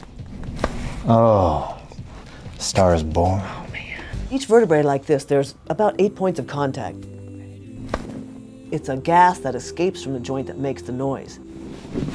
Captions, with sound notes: (bones cracking) - Oh, a star is born. - Oh man. Each vertebrae are like this, there's about eight points of contact. (bones cracking) It's a gas that escapes from the joint that makes the noise.